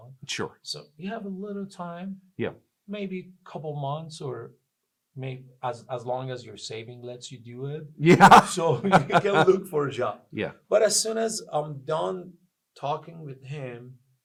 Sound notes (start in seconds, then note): 8.0 laughs